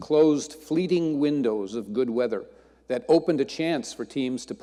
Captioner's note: none